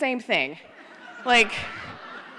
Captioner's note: laughter